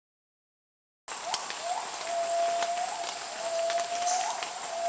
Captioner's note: gibbons calling